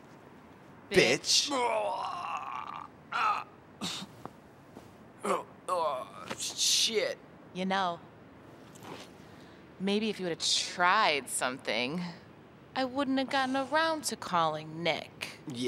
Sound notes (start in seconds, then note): 3.9 moans